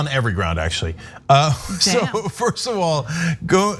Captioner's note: laugh